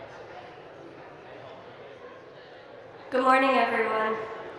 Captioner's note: audience chattering